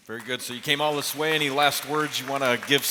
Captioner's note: applause